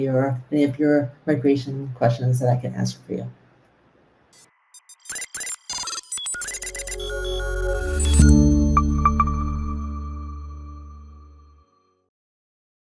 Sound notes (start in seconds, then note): 4.4 electronics beeping; 6.5 ethereal music